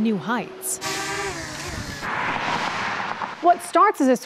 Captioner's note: drone whirring